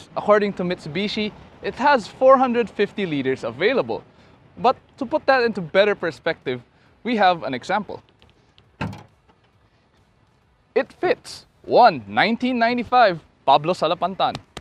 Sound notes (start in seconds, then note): 8.7 door opens; 14.3 tap tap